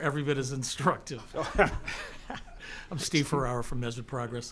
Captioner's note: chuckles